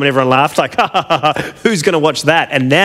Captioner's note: laughs